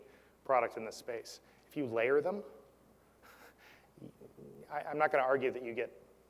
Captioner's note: laugh